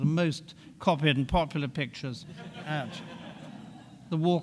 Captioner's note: audience laughing